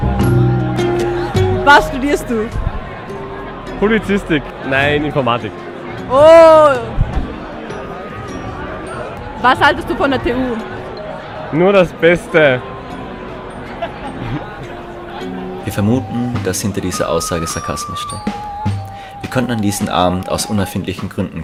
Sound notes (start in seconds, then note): 13.6 starts laughing